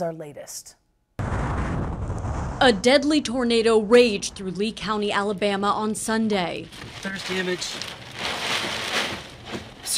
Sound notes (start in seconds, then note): 1.3 wind; 6.7 wind/rain